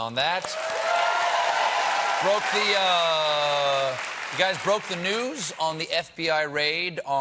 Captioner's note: cheers and applause